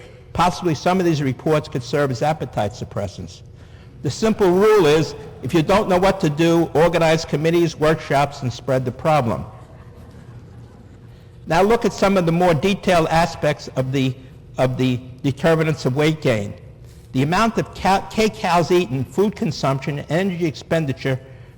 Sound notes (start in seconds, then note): 11.3 laughter